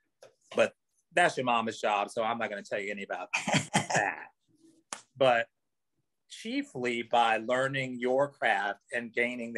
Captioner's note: chuckles